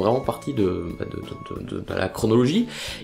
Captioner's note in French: bégaiements